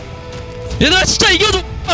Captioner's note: BuZz